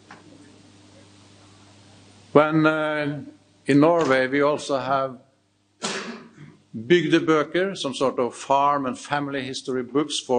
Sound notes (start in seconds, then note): 3.9 speaks in foreign language